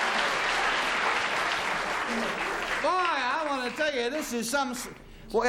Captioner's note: chuckles